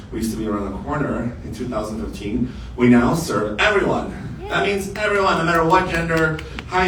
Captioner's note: applause and yays from crowd